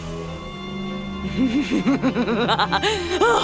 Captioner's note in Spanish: Risa malvada